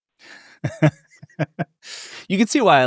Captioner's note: laughing